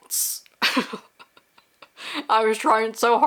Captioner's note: laughing